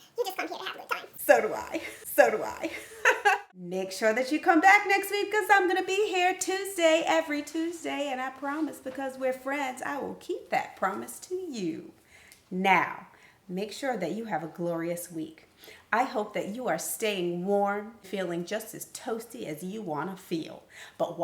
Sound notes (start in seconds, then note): 3.1 laughs